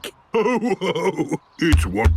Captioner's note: laughing; giggles